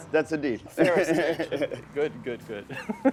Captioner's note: laughing